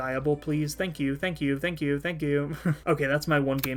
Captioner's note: laughing